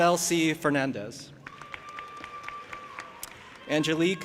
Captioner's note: audience applauding and cheering